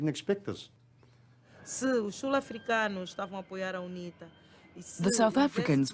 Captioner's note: non-english speech